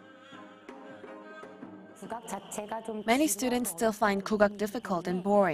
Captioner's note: Korean